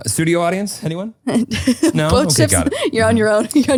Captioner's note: giggling